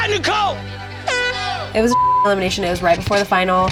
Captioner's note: beep